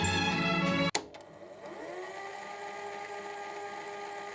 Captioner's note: light uplifting music; rewind sound